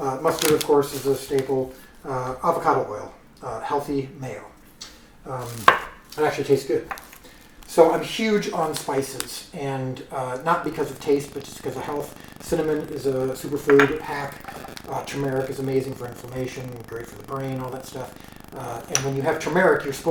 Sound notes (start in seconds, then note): 7.2 jar clatters